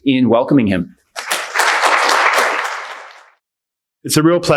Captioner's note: audience applauding